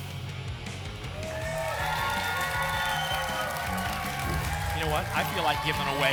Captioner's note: applause and cheering